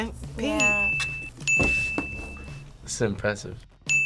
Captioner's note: bell rings